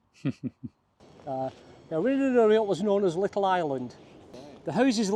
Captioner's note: laughter